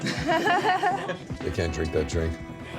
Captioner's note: laughing